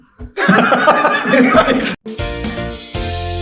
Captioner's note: laughing; upbeat music